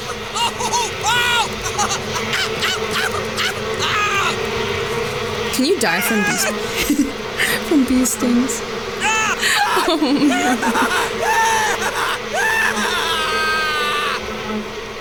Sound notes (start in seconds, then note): 0.0 rhythmic yelping; 5.5 yell; 9.0 shouting and screaming; 9.4 giggle